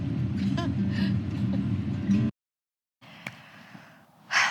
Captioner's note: chuckles lightly